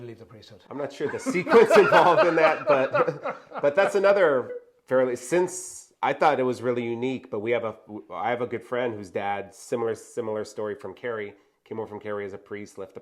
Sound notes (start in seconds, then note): 1.1 heavy laughter from both